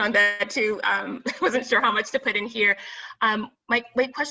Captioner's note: chuckles